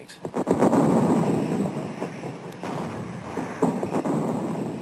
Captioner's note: bombs exploding